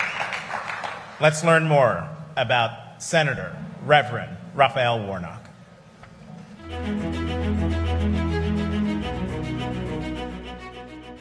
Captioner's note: cheering and applause